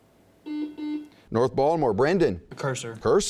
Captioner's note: buzzing